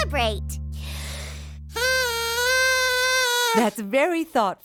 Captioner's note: honking